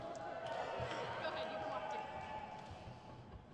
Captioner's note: crowd cheers